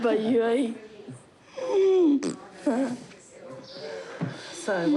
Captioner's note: wheezes, laughs